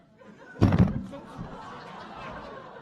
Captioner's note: audience laughing; loud banging; audience laughing